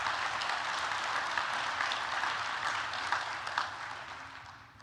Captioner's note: applause